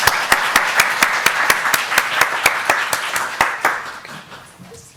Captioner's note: audience applauding